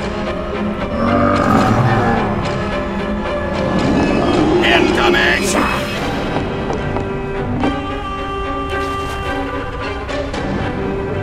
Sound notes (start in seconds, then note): 0.9 zombie moans; 6.2 quick footsteps